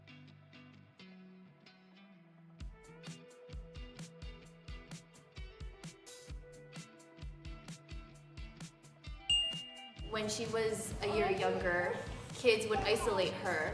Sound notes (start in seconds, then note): 0.3 energetic electric guitar; 9.3 bell chimes